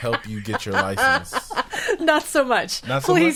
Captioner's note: laughing